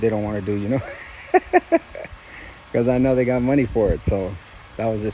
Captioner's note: chuckling